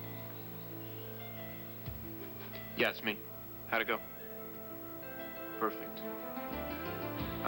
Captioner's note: telephone beeps